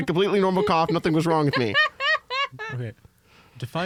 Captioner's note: laugh